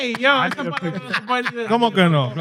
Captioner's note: speaking In Foreign Language